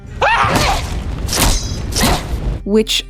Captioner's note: David yelps in fear; grisly chopping sounds